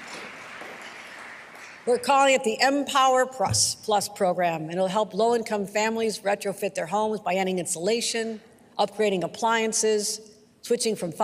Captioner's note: applause